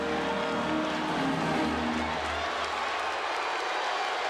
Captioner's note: crowd cheering